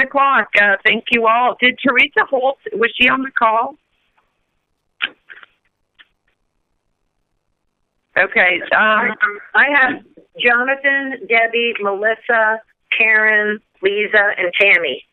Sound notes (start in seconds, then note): 3.8 silence